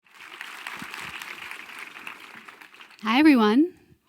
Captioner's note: crowd applauding